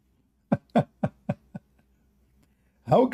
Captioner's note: Ketawa